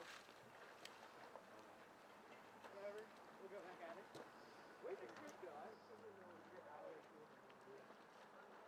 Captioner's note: splashing, indistinct voices